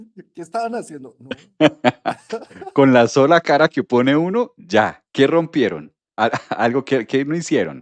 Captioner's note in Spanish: risas